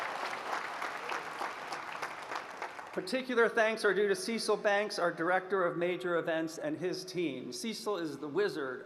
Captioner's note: applause